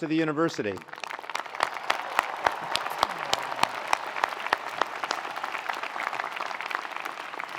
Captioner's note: attendees applauding; attendees cheering